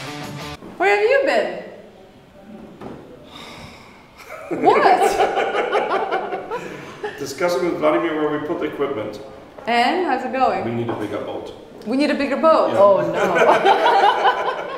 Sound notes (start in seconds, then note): 3.2 sighing; 4.2 laughing; 13.1 laughing